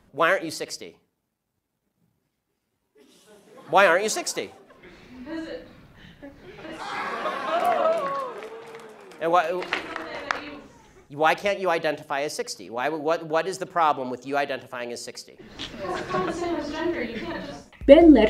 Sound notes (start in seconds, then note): 7.6 crowd laughs and cheers